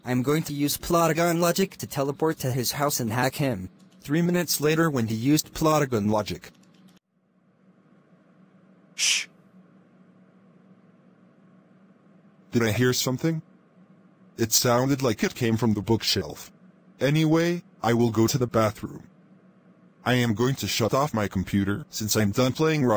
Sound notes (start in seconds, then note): 6.4 Jacob shushing